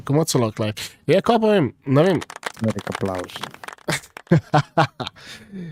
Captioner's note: applause